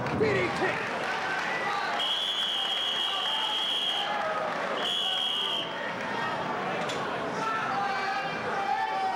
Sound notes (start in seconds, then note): 2.0 whistling; 2.1 spectators cheering; 4.7 whistling